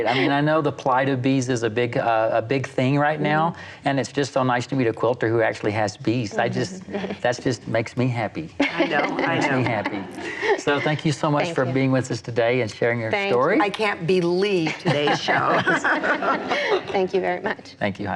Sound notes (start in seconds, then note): 0.0 laughs; 8.6 laughs; 14.9 laughs